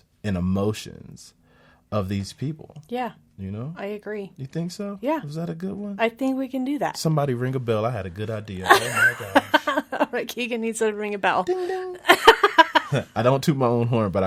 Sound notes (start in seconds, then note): 10.4 laughs